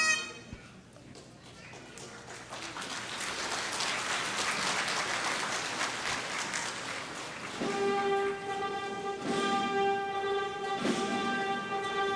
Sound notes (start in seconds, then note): 1.4 applause